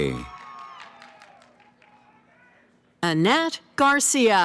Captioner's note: cheering